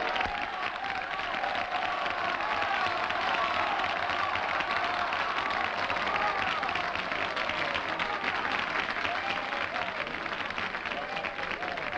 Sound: audience applauding

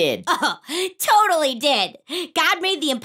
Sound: laughs

